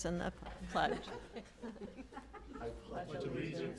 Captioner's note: laughter